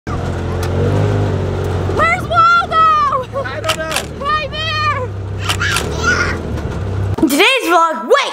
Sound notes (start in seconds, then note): 0.1 engine revving